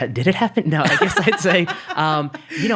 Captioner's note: laughing